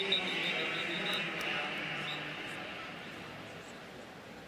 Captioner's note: whistles